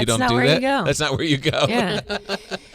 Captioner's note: laughing